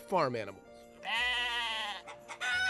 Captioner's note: sheep baaing; rooster crowing